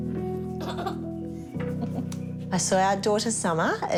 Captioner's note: giggles